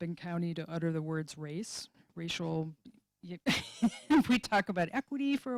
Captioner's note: laughing